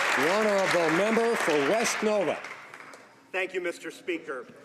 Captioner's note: some Applause